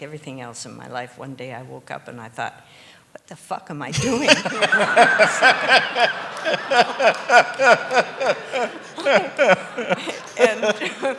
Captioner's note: laughter